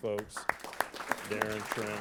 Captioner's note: applause